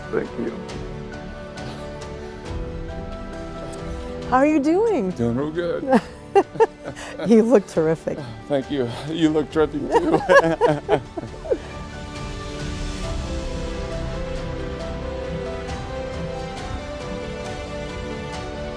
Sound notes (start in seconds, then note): 1.2 serene instrumental music; 6.2 laughs; 9.8 laughter; 12.0 serene instrumental music